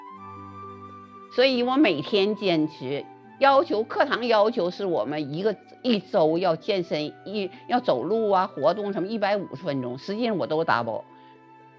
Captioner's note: speaking chinese